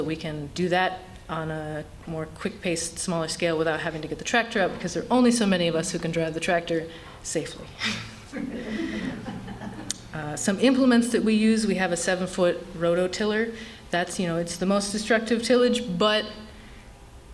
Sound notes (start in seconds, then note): 7.8 laughter